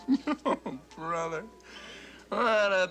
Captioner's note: chuckles